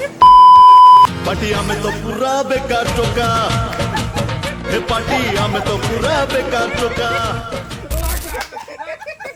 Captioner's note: laughter sound